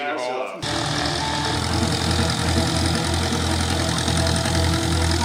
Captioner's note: propellor chugging; mellow action music